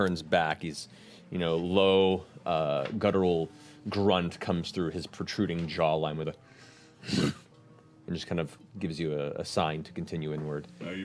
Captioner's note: grunt